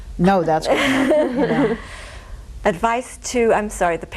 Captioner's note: laughs